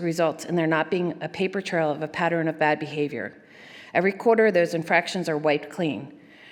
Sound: none

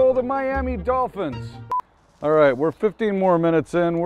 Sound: beep

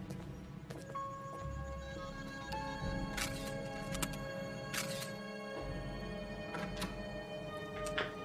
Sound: camera clicking; phone beeping

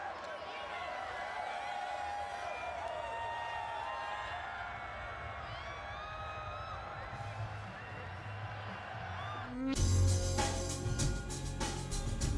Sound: applause

